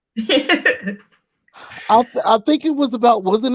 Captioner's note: laughing